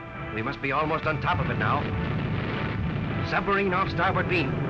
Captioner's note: voiceover